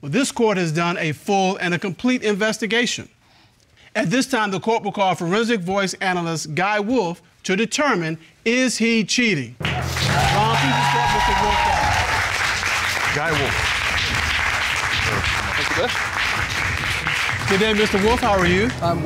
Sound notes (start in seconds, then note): 11.9 audience cheers, applauds